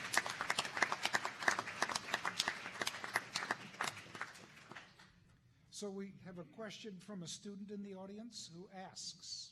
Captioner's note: applause